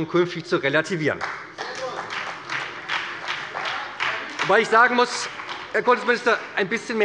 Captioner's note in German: Beifall bei der SPD